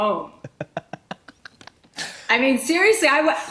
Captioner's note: laughs